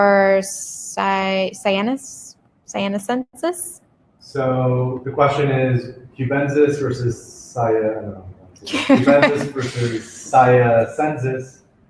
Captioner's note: chuckle